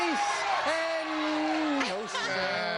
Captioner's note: laughs